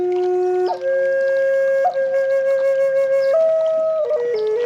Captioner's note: sounds of running water